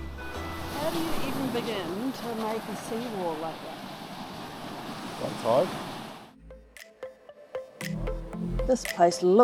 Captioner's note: waves crashing